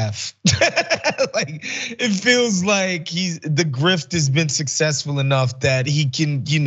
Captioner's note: laugh